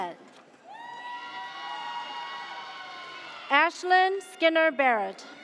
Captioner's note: audience cheers